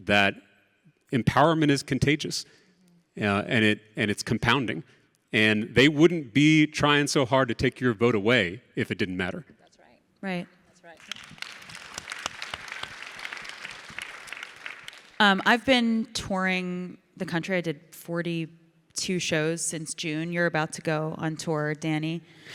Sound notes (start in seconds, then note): 13.1 audience clapping